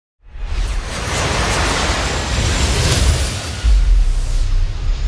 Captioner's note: aircraft engine roaring